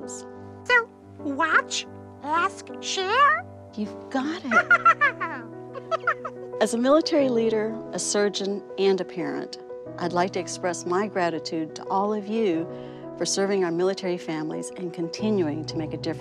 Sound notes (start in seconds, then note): 5.7 laughs